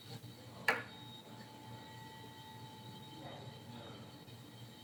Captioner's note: faintly speaking